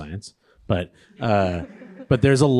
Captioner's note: audience laughing